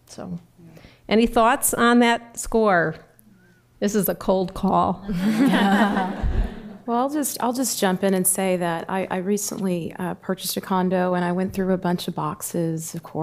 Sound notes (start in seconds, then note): 5.1 laughter